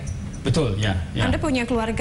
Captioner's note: non-english speech